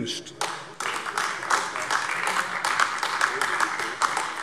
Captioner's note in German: Beifall AfD